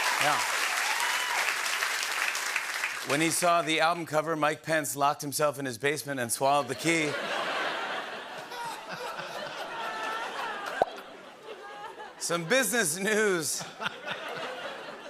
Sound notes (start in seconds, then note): 6.7 laughter